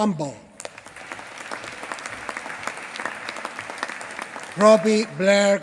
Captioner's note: applause